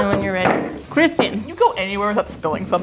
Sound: glass clattering

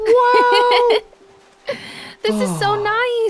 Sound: laughing

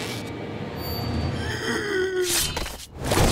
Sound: groaning

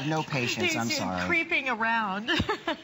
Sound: laughter

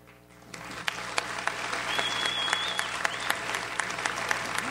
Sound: audience applauds

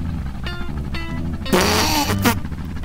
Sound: loud stifled exhale giggle

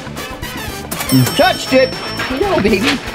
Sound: playful, energetic music; cash register dinging

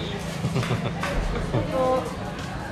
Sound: chuckles

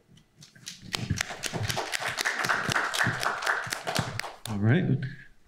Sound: applause

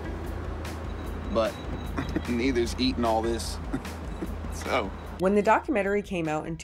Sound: chuckles

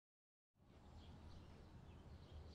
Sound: birds chirping

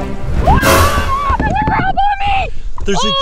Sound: shrieks

